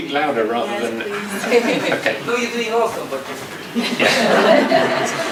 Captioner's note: audience laughs